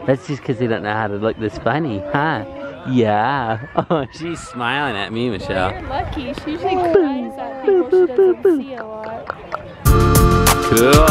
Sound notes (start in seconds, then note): 2.8 coos; 7.6 clucks his tongue